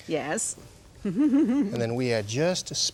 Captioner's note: chuckles